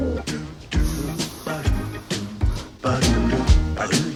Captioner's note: blows air